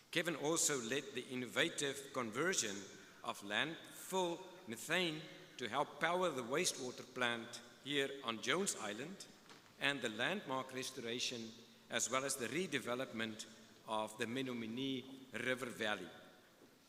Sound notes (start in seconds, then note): none